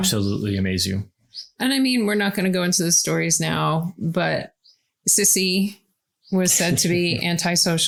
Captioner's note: laughs